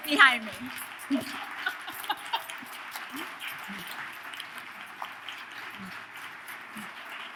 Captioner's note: audience claps; laughs